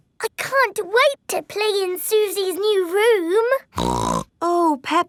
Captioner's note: snorts